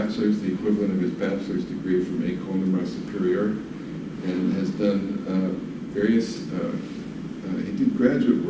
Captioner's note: non-english speech